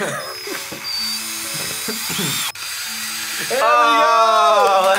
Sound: drill whirring

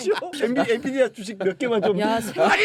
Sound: laughs

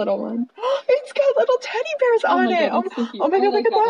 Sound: gasp; second gasp

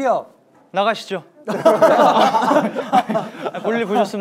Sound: group laughter

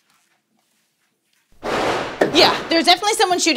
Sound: gunshots

